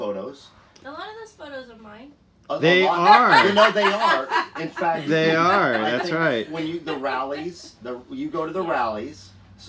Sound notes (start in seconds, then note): 2.9 laughter